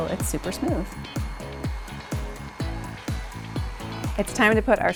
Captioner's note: blender whirring